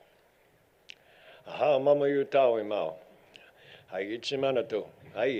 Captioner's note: speaking foreign language